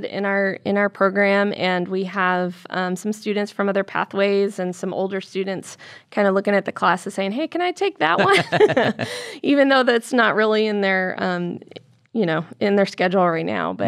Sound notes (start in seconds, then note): 8.1 laughter